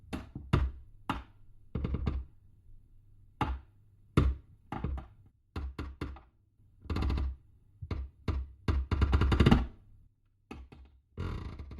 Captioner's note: creaking overhead